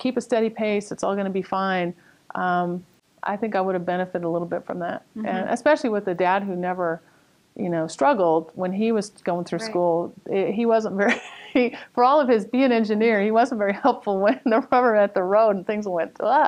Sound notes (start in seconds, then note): 10.6 laughs